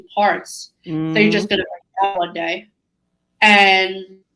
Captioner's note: voice breaks up